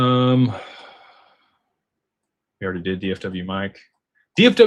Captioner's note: sighs